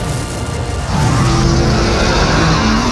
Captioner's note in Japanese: 魔獣の雄たけび